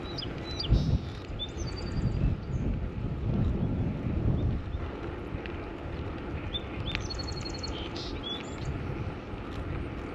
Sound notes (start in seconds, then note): 0.0 birdsong; 6.4 more chirping and singing birds